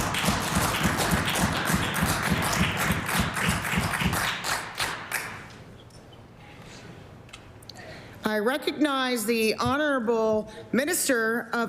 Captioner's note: applause